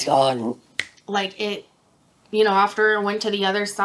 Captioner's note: snaps fingers